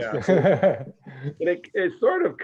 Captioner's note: laughs